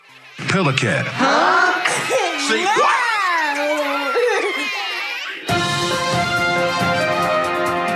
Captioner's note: children laughing